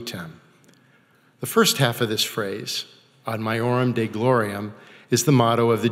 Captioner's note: speaking foreign language